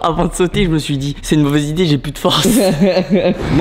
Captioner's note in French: rire